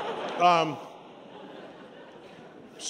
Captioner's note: laughter